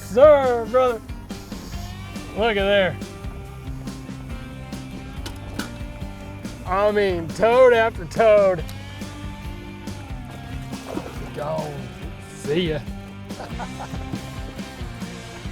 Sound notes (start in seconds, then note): 0.0 laughing; 13.2 chuckles